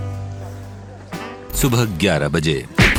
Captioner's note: BIG BOSS's VOICE